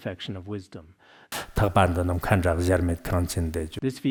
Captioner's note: citing scripture in Tibetan